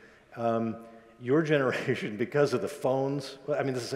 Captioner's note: laughs